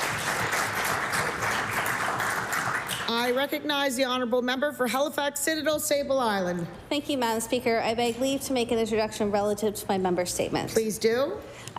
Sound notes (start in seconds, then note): 3.7 applause